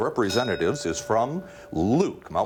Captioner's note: bell rings